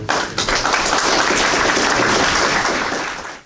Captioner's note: crowd applauds